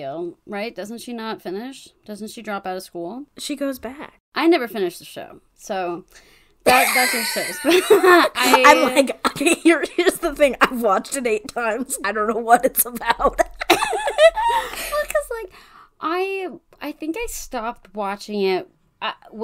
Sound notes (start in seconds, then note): 6.9 wheeze laughs